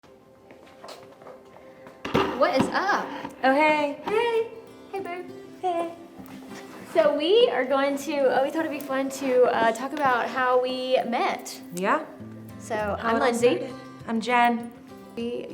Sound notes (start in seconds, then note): 0.0 chairs thud; 0.0 gentle music